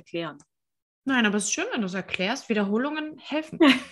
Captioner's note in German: lachen